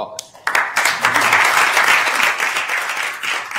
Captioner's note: applauding